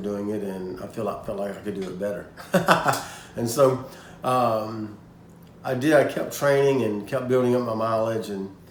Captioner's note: haha